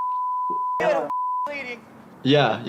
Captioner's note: beep